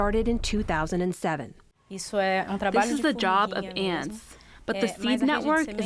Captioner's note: through translator